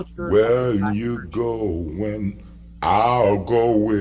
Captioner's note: murmurs